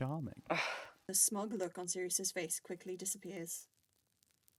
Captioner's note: Remus scoffs